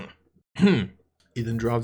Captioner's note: clears his throat